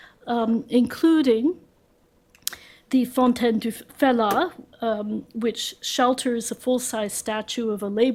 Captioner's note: french